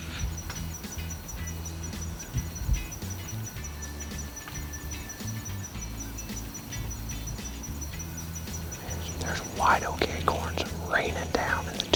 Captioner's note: whispering